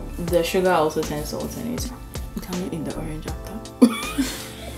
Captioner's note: both laugh